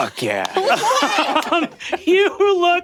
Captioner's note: Brennan laughing